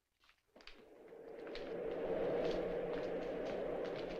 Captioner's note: wind Howling